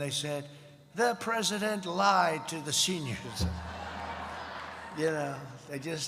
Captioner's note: laughter